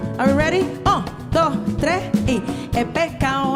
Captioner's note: speaking in Spanish; singing in Spanish